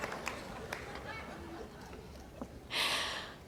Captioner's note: laughter